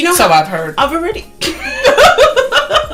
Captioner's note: laughter